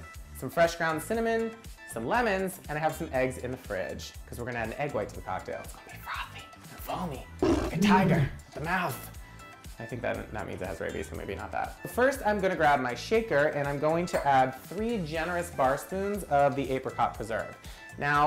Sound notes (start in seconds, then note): 7.4 tiger roars